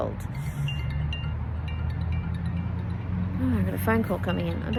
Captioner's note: phone ringing chime sounds